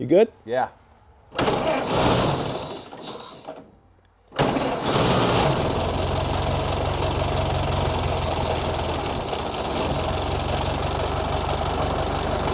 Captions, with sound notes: You good? - Yeah. (engine sputters) (engine runs)